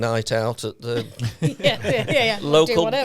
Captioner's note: all laughing